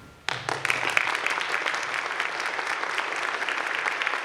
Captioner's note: audience claps